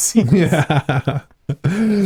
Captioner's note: both laughing